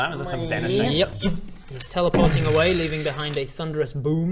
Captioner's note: zzzooop